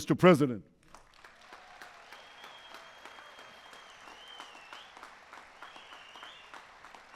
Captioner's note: applause